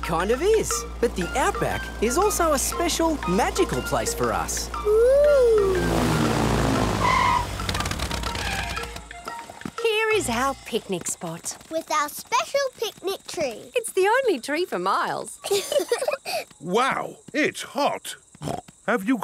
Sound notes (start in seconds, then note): 7.3 tires screeching; 15.4 laughing; 18.4 snorts